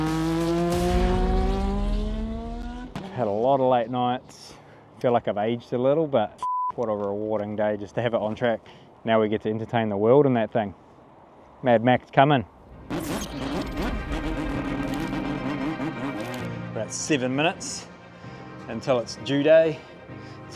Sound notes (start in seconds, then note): 6.4 beep